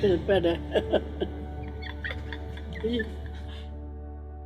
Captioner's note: chuckling